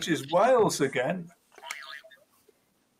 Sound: boing

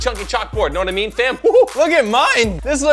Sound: hooting

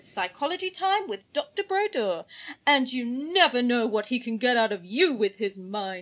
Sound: dramatically

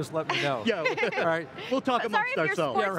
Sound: laughs

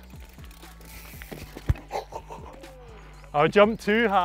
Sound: laughs

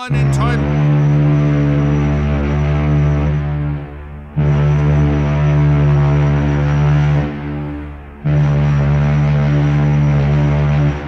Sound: loud ships horn

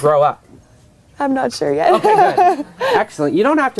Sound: laughs

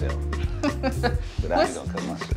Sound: laughs

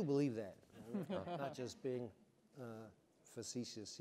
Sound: chuckles

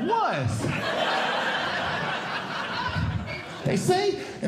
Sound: audience Laughing

